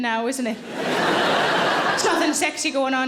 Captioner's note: audience laughing